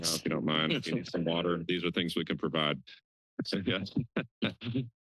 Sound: laughter

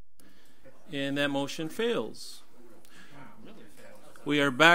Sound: overlapping chattering

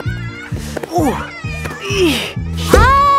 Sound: grunting

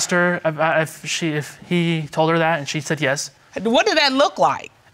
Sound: stammering

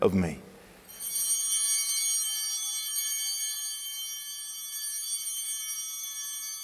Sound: altar bell ringing

